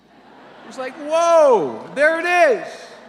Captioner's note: audience laughter